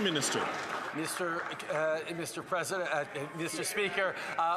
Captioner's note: some Applause